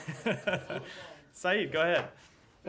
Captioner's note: laughter